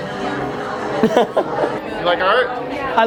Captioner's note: laughs